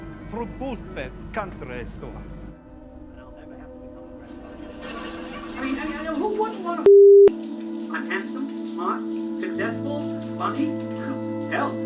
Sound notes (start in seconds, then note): 0.1 speaking in unknown foreign language; 4.1 television chatters; 5.3 suspenseful music